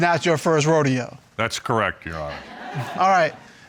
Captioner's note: audience laughs